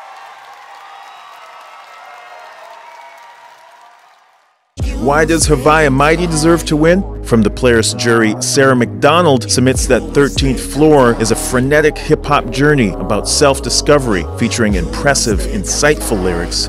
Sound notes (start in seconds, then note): 0.0 applause; 0.0 cheers and applause